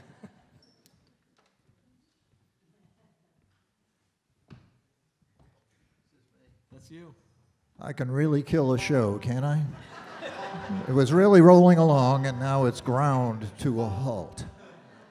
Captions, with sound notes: >>I can really kill a show, can't I? [Audience Laughter] It was really rolling along and now it's ground to a halt.